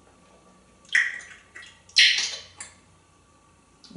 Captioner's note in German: smacking sounds